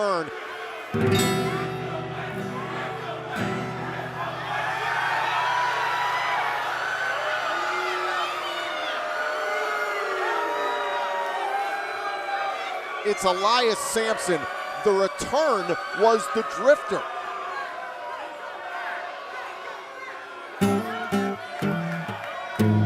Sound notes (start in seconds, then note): 10.0 cheers and applause